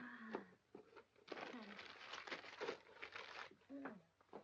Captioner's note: paper rustling